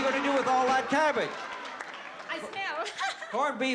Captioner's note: laughs